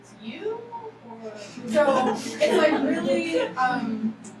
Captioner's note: laughing